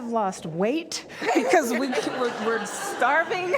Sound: crowd noise; laughter

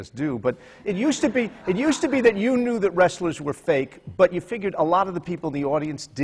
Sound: laughter

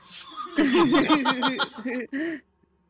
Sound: all laugh

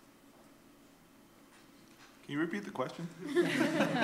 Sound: laughter

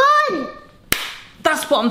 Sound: hands slapping

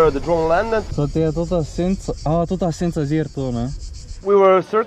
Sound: speaking Slovenian

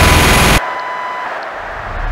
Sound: minigun stops, thankfully

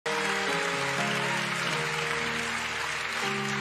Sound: congregation applauding; gentle piano music

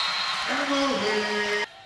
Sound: whistle; cheering

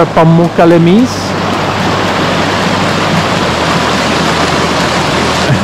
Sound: water flowing; laughs

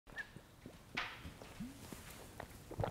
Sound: slurp

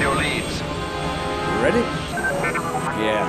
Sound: droid bleeps

